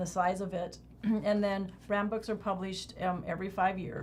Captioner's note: clears throat